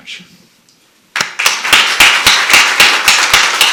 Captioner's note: applause